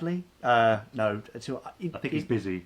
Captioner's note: stammers